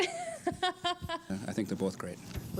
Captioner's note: laughs